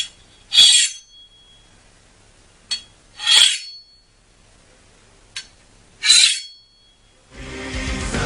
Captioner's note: swords being sharpened